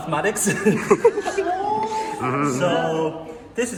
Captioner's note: chuckles